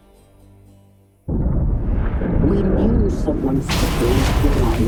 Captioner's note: deep rumbling